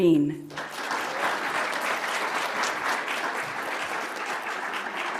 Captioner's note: audience applauds